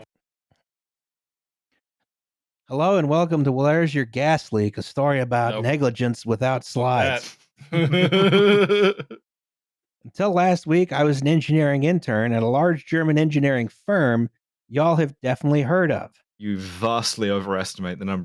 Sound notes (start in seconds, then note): 7.7 laughter